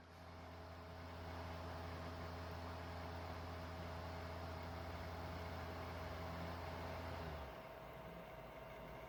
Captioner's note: laptop dvd drive spinning